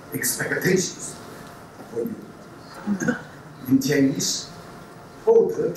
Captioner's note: speaks Chinese